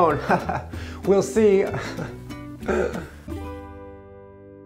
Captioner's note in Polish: smutny chichot